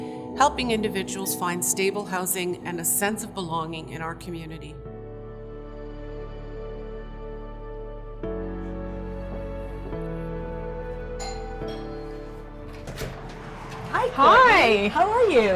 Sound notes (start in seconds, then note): 11.2 doorbell rings; 11.7 door opens